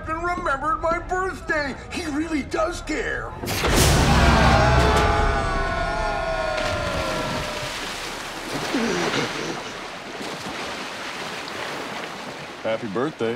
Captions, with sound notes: I can't believe the captain remembered my birthday! He really does care. [screaming] [gasping]